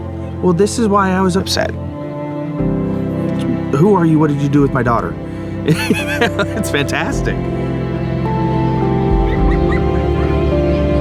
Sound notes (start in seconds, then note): 5.6 laughs; 8.2 children laughing